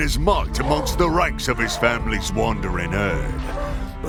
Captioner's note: brawling sounds